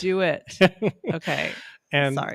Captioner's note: chuckles